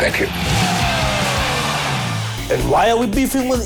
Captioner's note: crowd cheers